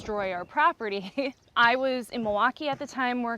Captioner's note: laughs